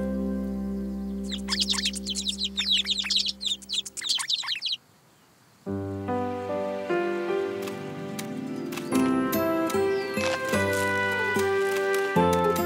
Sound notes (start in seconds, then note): 1.3 forest animals laughing; 6.1 lighthearted music; 10.0 crunching